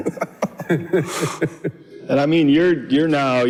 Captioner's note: laughs